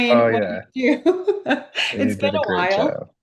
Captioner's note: laughs